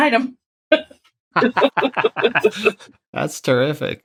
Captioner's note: laughter